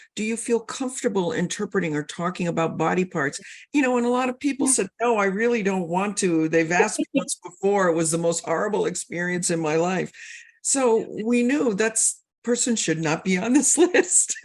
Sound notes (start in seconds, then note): 7.5 laughs